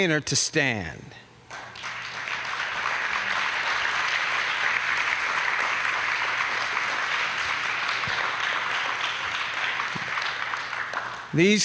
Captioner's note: applause